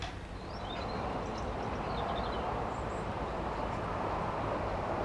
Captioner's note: birdsong, traffic